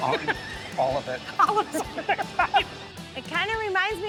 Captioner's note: both laugh